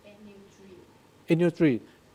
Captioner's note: speaking in a foreign language; woman speaking in background